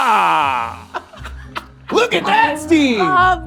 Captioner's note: playful music; laughing; cymbal shimmering music